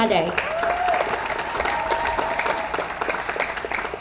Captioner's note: audience applauds